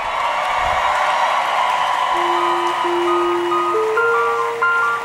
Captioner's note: audience cheering; audience clapping; upbeat music